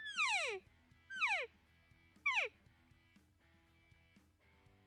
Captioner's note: elk call